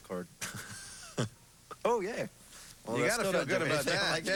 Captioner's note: chuckles